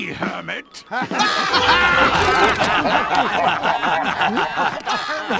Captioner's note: laughter